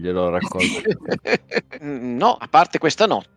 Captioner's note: laughter